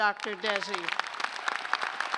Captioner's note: applause